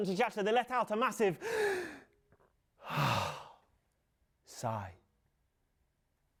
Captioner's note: inhales and exhales